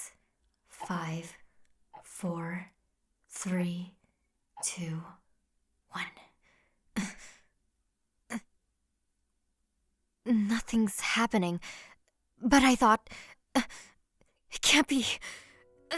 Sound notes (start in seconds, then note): 13.3 shocked noise